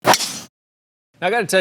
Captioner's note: club thwacks